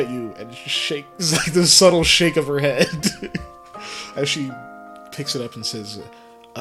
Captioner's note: laugh